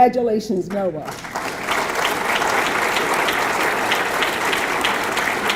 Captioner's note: audience clapping